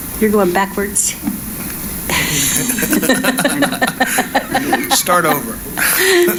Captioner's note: chuckling